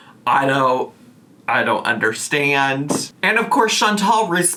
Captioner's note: none